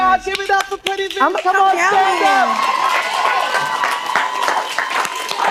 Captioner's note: applause